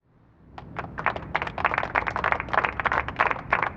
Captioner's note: applause